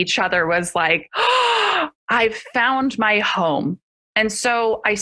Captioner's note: gasp